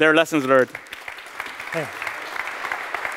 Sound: applause

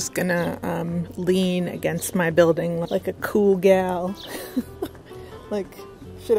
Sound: laughs

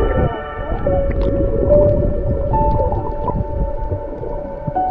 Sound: water splashing

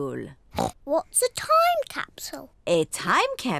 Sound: oinks

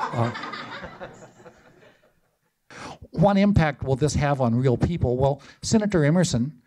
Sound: laughter

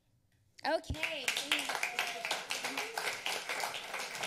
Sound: applause

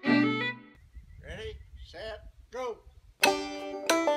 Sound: hammer and music

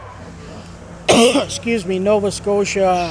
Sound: cough

